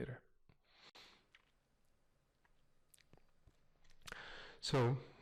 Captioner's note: pause